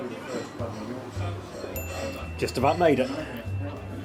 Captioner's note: pinging